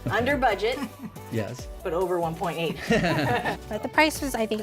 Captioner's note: all laugh